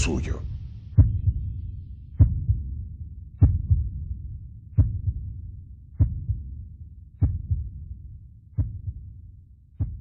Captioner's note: heart beating